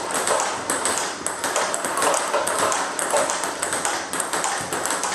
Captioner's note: ball ping pong hitting continues